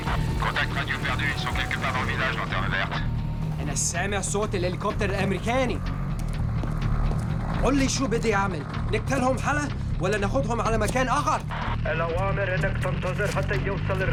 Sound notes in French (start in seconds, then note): 4.3 Parlant arabe